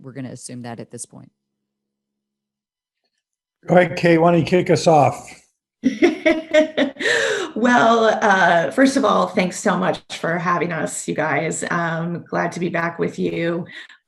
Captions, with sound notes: We're gonna assume that at this point. - Kate, why don't you kick us off? - (laughs) Well, first of all, thanks so much for having us you guys. I'm glad to be back with you.